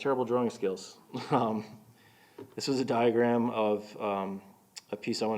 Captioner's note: chuckling